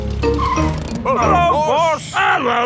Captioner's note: brakes squeal